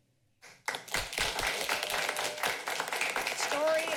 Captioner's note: applauding